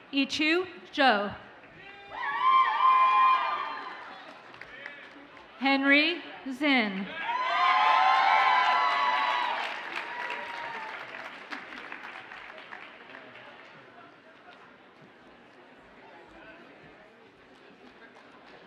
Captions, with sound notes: Yiqiu Zhou. (audience cheers and applauds) Henry Zinn. (audience cheers and applauds)